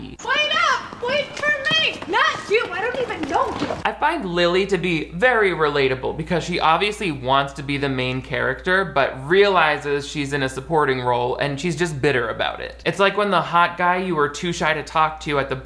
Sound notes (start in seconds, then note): none